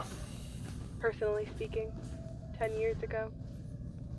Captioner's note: over coms